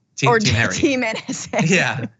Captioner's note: laugh